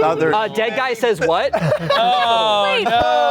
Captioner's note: laughing